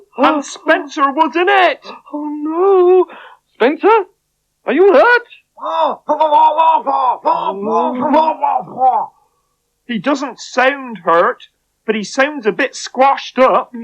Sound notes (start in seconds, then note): 5.2 Spencer Talks In Spider Language